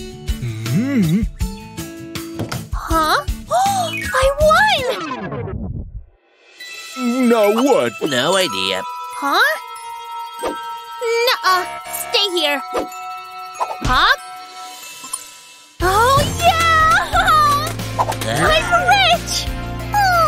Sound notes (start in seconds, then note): 5.7 making happy sounds